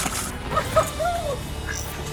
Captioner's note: dog barks and whines